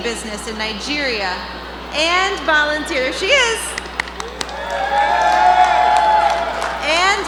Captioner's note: applause